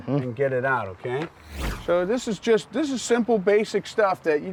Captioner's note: none